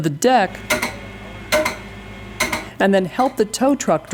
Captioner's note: mallet strikes